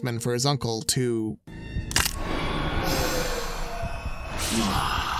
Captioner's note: inhales; snaps